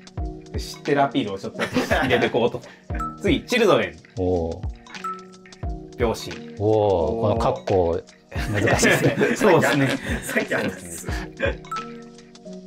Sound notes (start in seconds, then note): 8.4 laughing